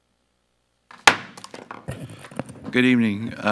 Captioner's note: gavel thuds